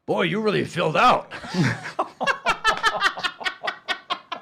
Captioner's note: laughing